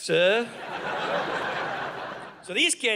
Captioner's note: audience laughing